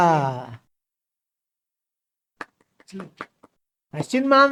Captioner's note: claps